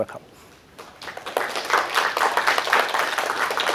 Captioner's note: applause